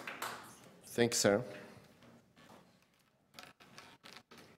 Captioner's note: applause